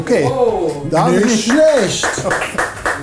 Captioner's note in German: Klatschen